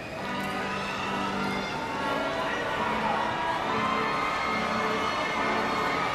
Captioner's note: audience shouting and cheering